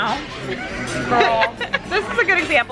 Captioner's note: laughing